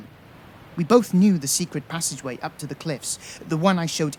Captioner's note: waves crashing